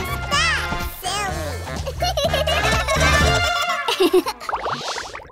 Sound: laughing

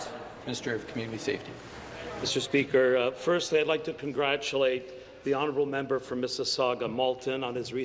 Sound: voice trailing

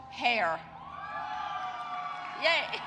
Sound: audience cheering

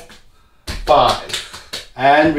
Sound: slapping

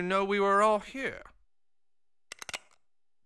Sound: gun cocking

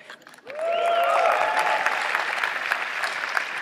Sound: cheers and applause

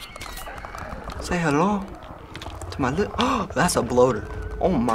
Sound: gasps

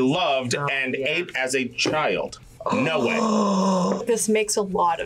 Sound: gasps

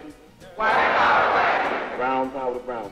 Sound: crowd

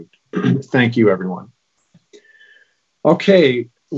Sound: clears throat

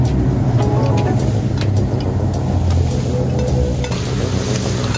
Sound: grass rustling

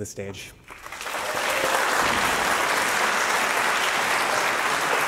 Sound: audience clapping

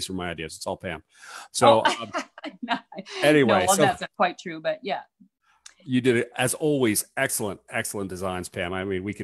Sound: laughs

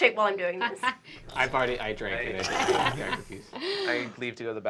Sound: slurping noises

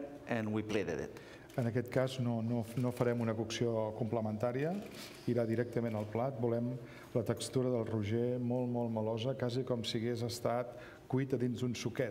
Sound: speaking catalan

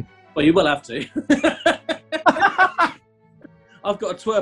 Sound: laughter

